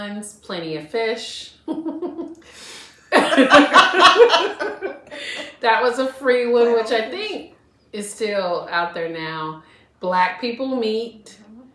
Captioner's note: laughter